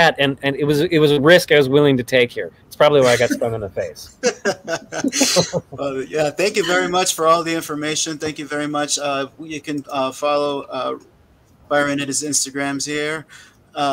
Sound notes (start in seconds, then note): 4.2 laughing